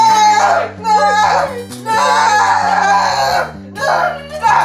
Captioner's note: screaming